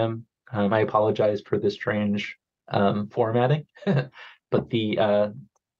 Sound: chuckles

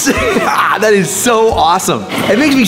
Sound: laughs

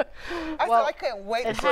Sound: laughs

